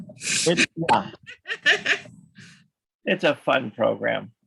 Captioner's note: laughs